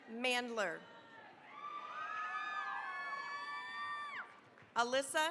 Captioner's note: cheering, applause